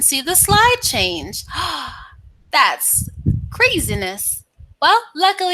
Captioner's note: gasps